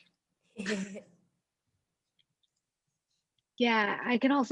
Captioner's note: laughs